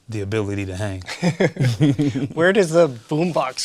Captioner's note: both laugh